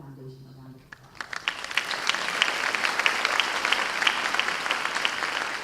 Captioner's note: audience applause